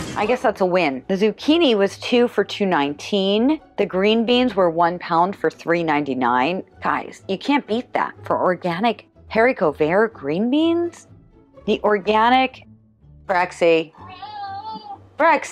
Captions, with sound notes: guess that's a win. The zucchini was two for two 19. The green beans were one pound for 3 99. Guys. You can't beat that for organic haricot vert green beans. The organic....Brexie. [cat meowing]. Brexie. [cat meowing]. Do